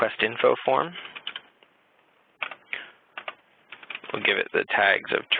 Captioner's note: typing